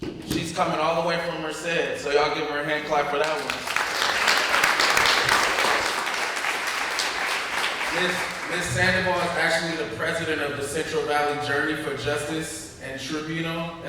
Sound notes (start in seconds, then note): 3.2 applause